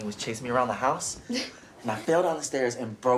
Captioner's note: Tracy laughs softly